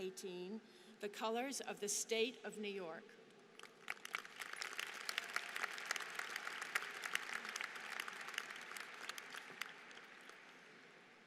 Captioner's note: applause